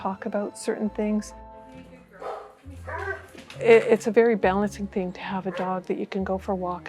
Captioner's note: dog bark